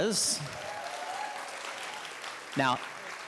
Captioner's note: audience clapping